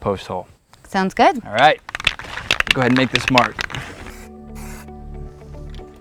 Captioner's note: rattling of spray can